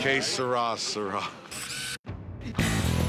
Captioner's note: none